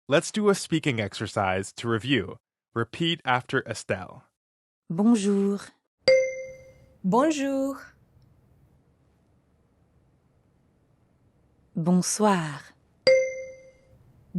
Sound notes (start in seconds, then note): 6.0 ding; 13.1 ring